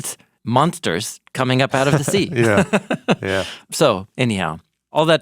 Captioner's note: laughing